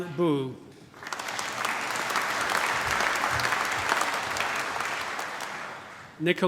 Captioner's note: applause